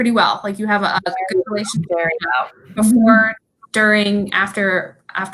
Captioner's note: computer static occurring